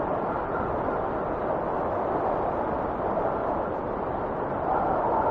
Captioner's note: wind whistling continues